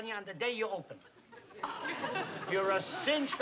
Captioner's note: gasps